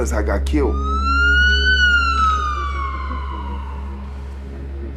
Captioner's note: police sirens